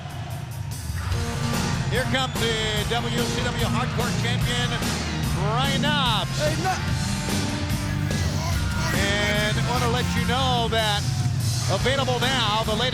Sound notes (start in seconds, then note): 0.2 upbeat rock music; 8.7 crowd cheering